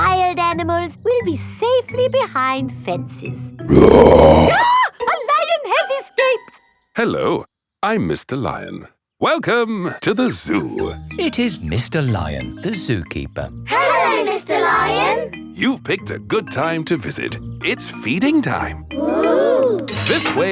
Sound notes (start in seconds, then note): 3.7 roars; 3.7 screams